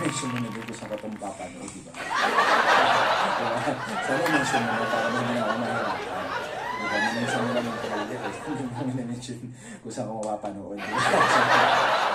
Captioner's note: laugh